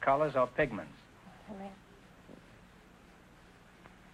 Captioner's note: whispering